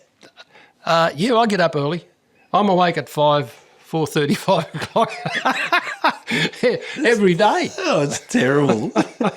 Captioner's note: laughing